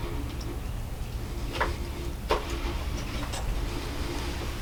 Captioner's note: heavy breathing